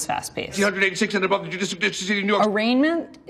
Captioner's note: rapidly speaking gibberish